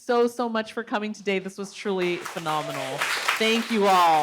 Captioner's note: audience applauds